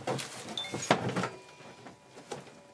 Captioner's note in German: Helles Klingeln